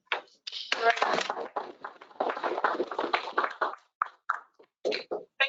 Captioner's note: applause